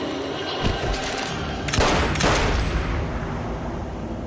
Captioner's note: gunshots